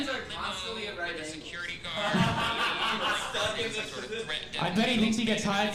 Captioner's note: audience laughing